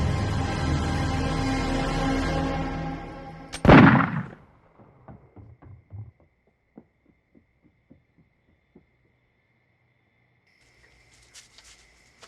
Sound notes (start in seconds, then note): 3.6 gun shot; 4.7 quick footsteps